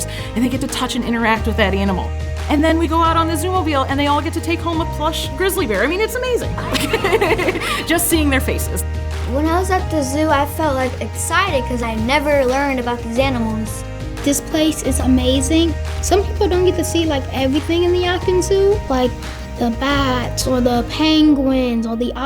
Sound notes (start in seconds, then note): 6.4 laughing